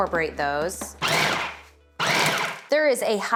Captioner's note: food processor whirs